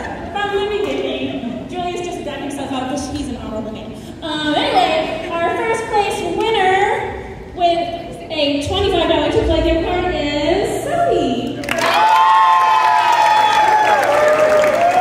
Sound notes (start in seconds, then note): 11.6 cheering